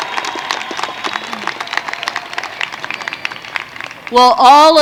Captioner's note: applause